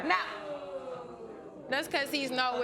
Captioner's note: audience booing